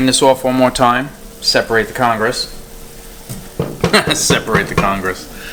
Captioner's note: laughs